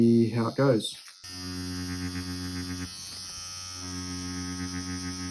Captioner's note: machine vibrates